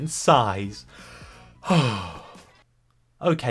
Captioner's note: sigh